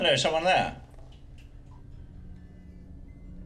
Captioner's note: water dripping; ominous music plays